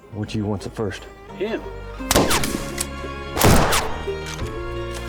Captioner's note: gunshots banging; light music